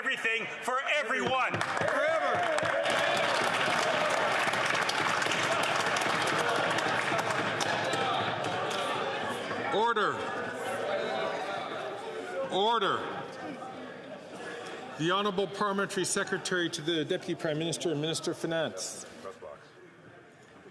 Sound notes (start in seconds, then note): 6.2 some Applause